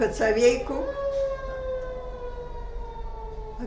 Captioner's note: sirens